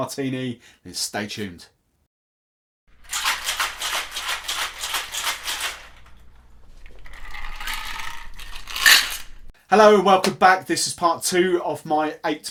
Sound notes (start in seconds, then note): 3.0 drink Shaker Shaking; 6.9 drink pouring